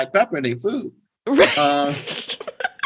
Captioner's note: laughter